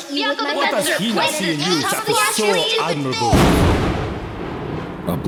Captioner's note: thunder